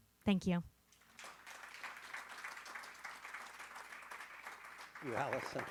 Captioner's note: audience laughing